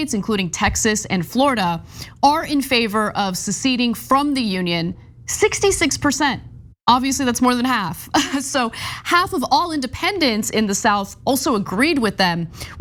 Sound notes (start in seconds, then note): 7.3 laugh